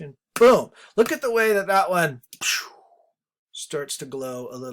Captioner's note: imitates whooshing